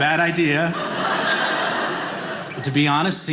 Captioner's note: audience laughing